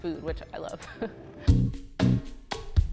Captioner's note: laughs; upbeat music